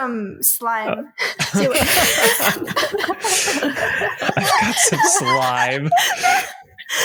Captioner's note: laughter